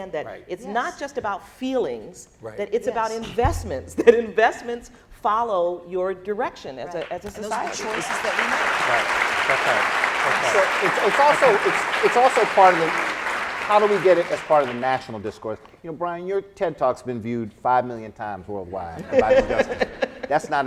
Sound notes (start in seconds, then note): 9.9 applauding; 19.0 laughing